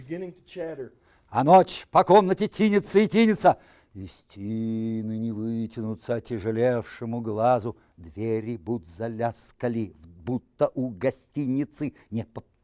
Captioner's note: reciting poem in Russian